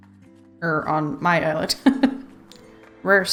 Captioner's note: laughs